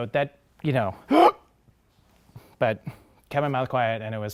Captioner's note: gasps